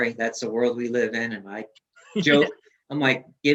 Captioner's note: laughs